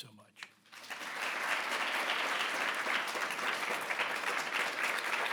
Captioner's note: audience applause